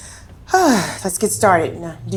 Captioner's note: sighing